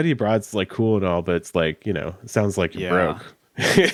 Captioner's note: chuckles